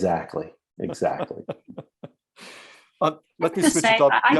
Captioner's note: chuckles